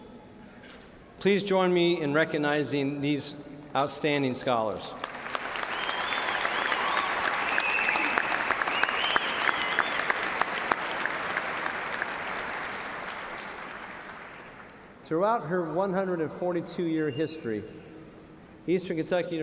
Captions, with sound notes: STAND. AND REMAIN STANDING. PLEASE JOIN ME IN RECOGNIZING THESE OUTSTANDING SCHOLARS. [ CHEERS AND APPLAUSE ]